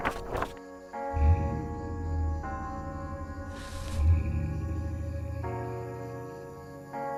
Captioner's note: truck drives away